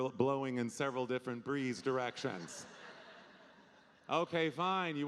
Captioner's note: audience laughing